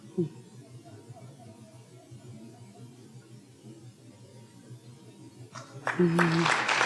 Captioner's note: audience members talking laughing off microphone; audience applauding